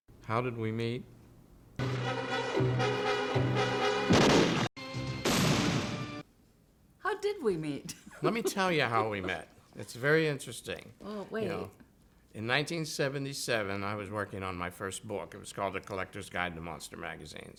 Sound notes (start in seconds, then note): 5.2 gunshots